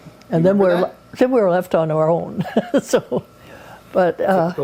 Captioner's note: chuckles